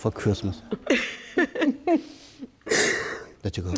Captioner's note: laughs